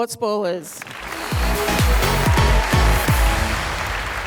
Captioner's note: applause